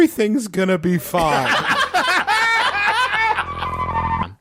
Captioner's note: laughing